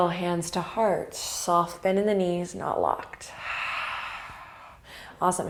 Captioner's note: exhale